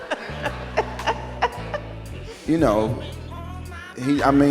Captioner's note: laughs